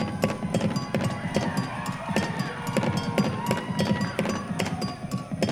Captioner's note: audience cheering